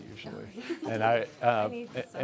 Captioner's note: chuckles